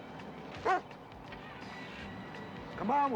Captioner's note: barking stops